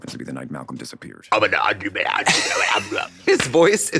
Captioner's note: Trixie gabbles